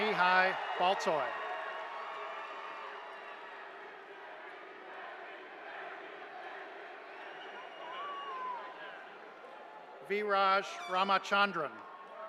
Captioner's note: cheers and applause